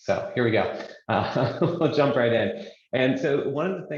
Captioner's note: laughs